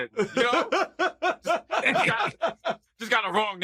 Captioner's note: laughter